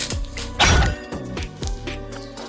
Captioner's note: clank sound